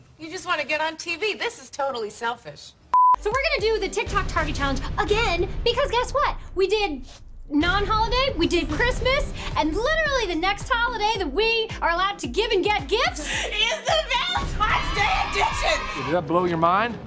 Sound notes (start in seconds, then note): 2.9 beep; 14.1 cheering